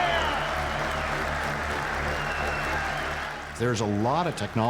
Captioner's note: cheering